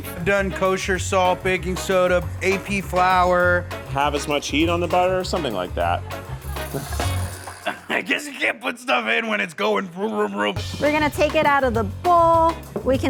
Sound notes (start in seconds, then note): 5.7 laughs